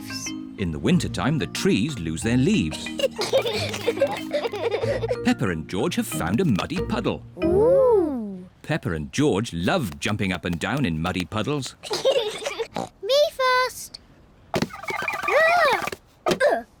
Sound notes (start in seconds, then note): 2.6 both giggle; 11.9 snorts